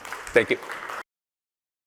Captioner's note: applause